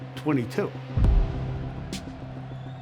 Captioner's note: cheering